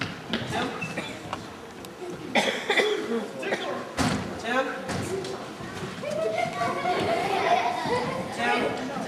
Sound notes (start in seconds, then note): 4.0 banging; 6.7 soft laughter